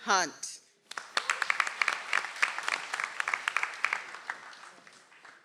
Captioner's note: audience applauds